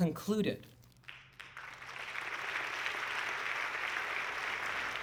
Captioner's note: audience clapping